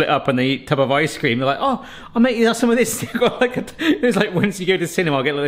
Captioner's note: laughs